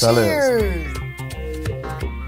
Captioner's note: foreign language; upbeat music